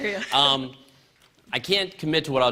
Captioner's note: laughter